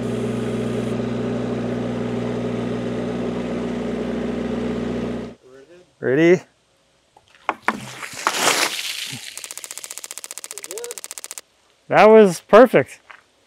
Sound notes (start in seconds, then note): 3.5 engine revving; 7.6 water splashing; 9.3 board clicking